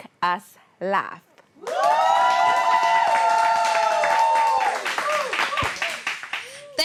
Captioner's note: crowd Cheering